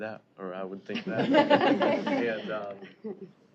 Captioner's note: laughter